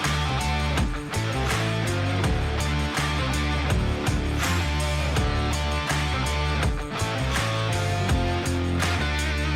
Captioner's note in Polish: Aplauz